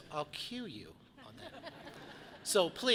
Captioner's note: audience laughs